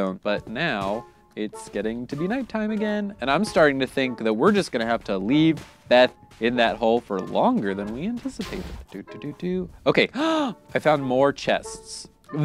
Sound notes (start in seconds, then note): 10.2 gasps